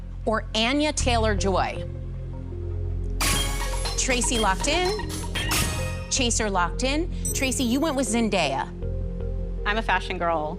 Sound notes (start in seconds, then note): 3.2 chime; 7.2 chime